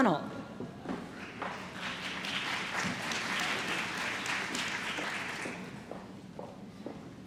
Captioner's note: applause